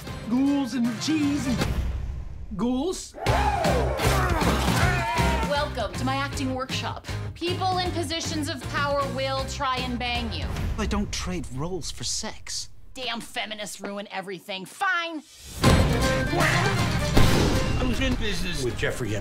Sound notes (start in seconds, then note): 3.1 cheers; 3.7 grunts